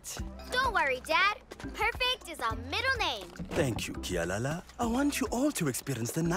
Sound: none

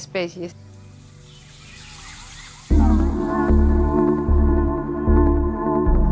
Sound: sounds of the amazon

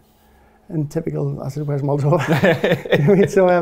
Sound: laughs

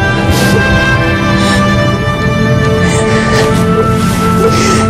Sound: Ester crying

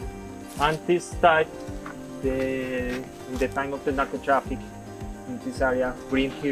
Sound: foreign language

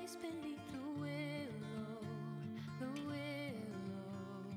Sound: none

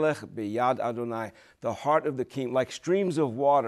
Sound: speaking Hebrew

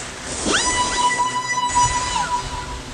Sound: alien shriek

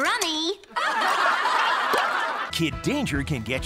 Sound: laughing

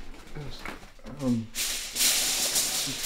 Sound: rummages around on foil

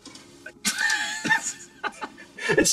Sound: both laughing

